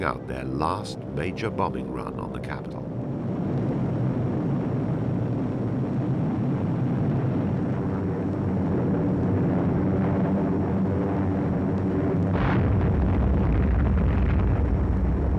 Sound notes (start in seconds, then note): 4.4 airplane engines rumbling; 12.2 bombs booming